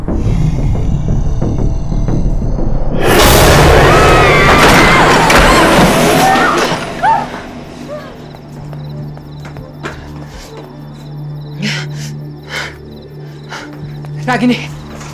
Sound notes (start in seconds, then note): 3.0 screams; 4.2 door closing